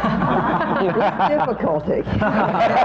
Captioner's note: laughter